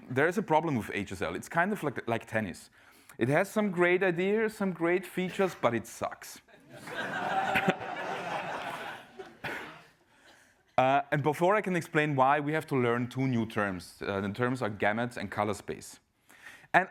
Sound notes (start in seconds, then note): 6.7 laugh